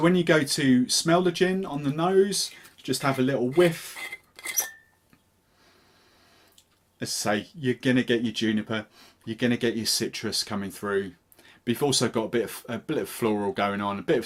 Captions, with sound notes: So when you go to smell the gin, on the nose, just have a little whiff, (cap unscrewing) let's say, you're gonna get your juniper, you're gonna get your citrus coming through. But you've also got a bit of floral going on,